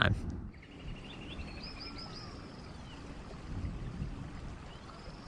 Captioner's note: birds chirping